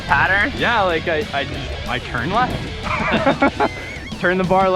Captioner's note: laughs